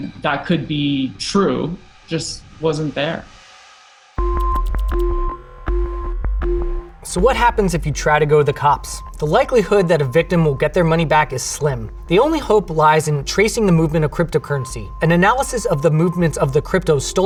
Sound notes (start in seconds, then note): 4.3 inquisitive music; 4.3 text whirring